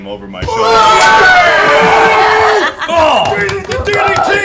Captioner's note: cheering